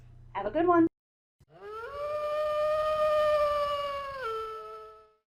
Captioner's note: wolf howl